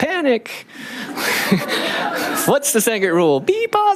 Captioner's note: laughing